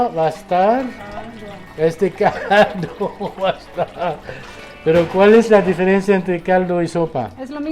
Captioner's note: laughs